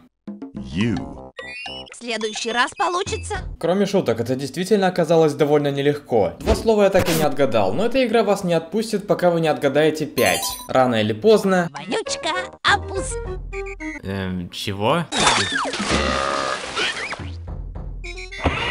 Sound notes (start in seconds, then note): 15.2 ker-splash; 15.2 ker-belch